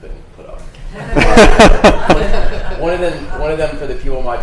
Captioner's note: laughs